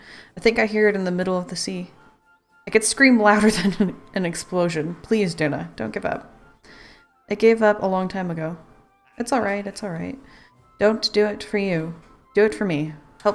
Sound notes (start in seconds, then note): 4.5 laughs